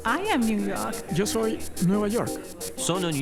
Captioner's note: Spanish